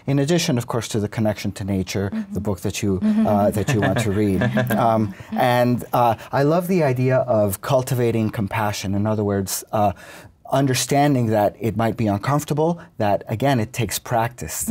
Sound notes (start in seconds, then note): 3.0 laughs